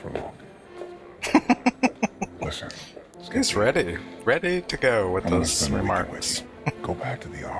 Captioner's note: laughing